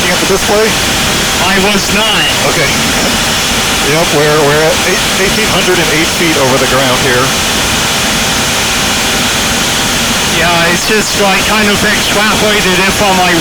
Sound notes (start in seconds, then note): 2.2 laugh